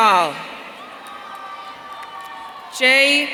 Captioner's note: audience cheering